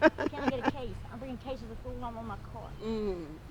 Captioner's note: laughs